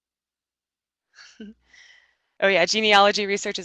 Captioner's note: chuckles